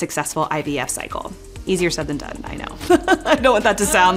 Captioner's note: laughs